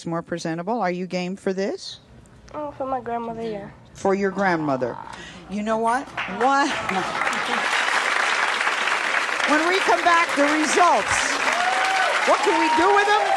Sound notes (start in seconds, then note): 6.1 applause